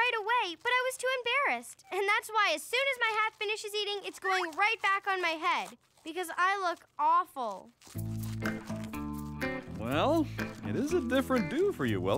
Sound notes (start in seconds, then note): 2.7 munching